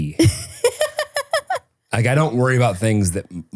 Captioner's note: person laughing